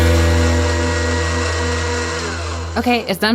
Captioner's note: blender blending